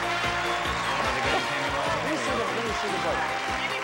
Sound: audience applauding; indistinct chatter

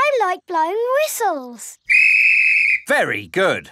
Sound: blows whistle

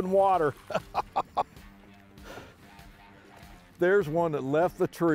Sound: laughs

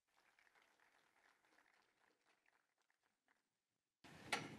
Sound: applause

